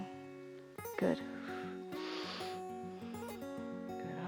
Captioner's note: exhales and inhales